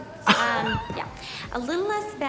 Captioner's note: Katya laughs